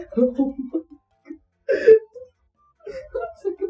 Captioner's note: laughing